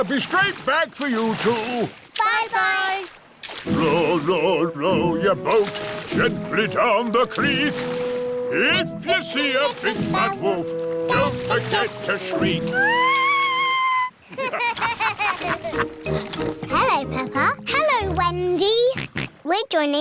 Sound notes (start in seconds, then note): 12.7 shrieks; 14.2 laughter; 19.3 snorts